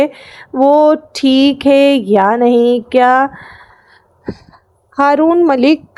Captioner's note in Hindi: अचानक ज़ोर से सांस लेने की आवाज़